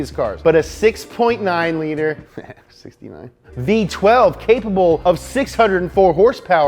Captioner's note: chuckles